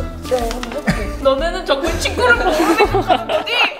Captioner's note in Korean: 울먹이며; 웃음